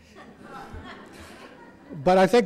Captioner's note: audience laughs